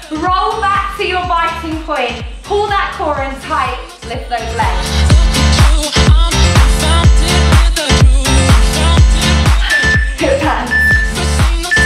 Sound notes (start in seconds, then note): 10.6 phone beeping